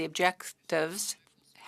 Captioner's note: speaking French